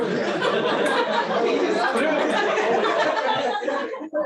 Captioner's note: laughter